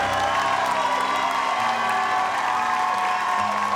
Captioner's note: audience cheers